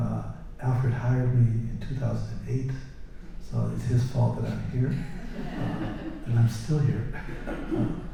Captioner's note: laughter